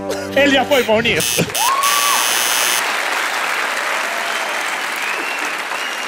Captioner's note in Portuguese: campainha